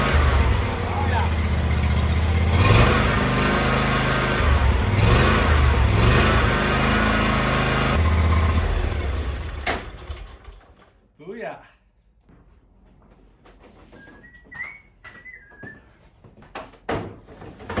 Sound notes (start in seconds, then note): 11.2 engine revving sounds; 15.7 whistling